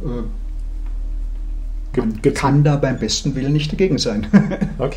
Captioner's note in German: lacht